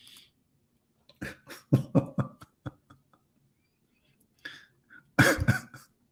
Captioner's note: Ketawa